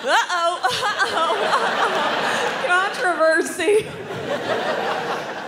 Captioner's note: crowd laughing; crowd laughs